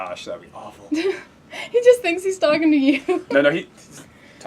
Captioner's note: laugh